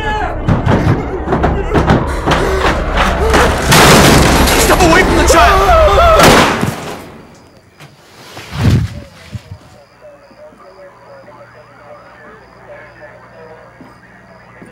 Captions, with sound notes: (banging) (breaking wood) Step away from the child! (screaming) (firing gun) (thumping) (chattering police radio)